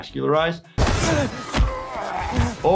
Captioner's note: characters grunting